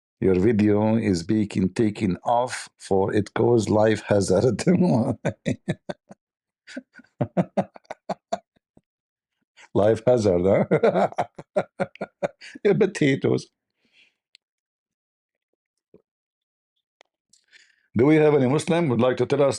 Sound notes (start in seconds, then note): 5.0 Ketawa